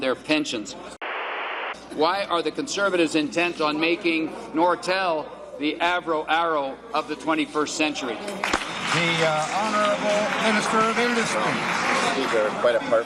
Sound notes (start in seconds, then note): 1.0 static; 8.3 applause